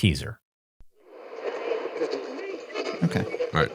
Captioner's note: radio static whirring; people chattering